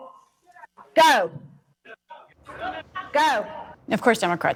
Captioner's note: shouting